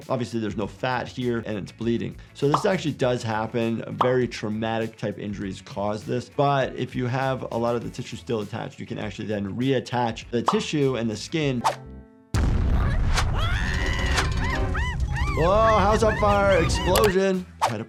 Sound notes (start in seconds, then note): 12.3 explosion booming; 12.6 Handy screaming